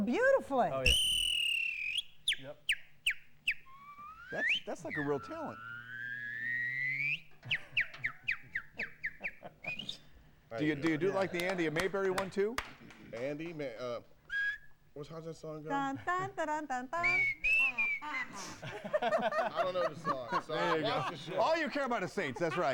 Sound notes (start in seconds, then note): 14.2 ñWHISTLEñ